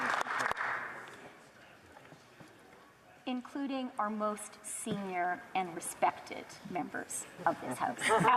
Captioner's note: applause